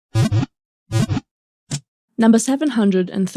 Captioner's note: Pokéball wiggle sound